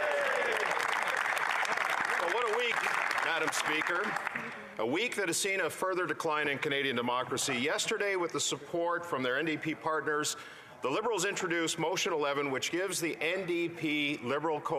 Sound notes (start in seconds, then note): 2.2 some Applause